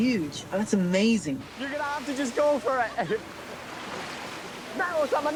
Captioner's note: chuckles